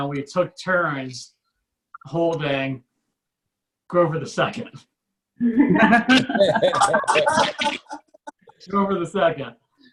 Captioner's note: audience Laughs